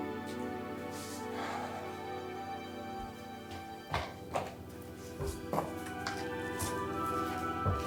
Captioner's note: Tom sighs